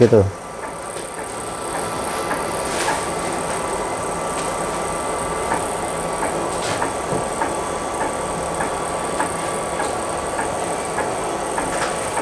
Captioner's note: printer machine noise